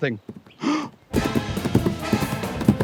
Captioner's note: gasps; moose gallops